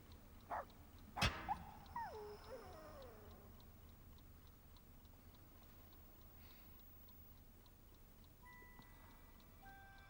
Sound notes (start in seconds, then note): 1.2 dog yowling